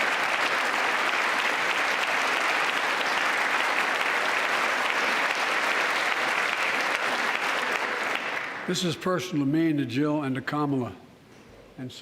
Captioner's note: applause